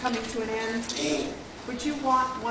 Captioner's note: old man voice